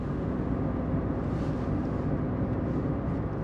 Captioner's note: engine roaring